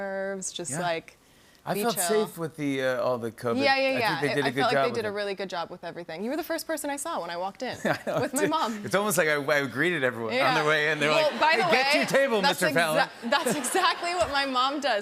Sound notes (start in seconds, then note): 13.2 laughter